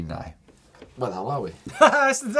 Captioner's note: laughs